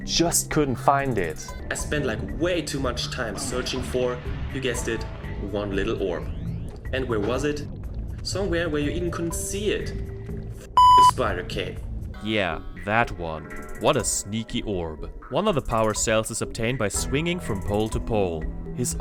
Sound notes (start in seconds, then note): 10.7 beep